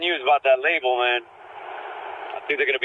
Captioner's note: loud city noise